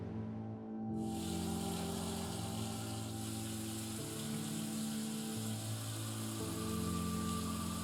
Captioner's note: instrumental music; water pouring from the tap